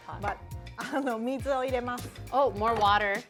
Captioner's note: speaking Japanese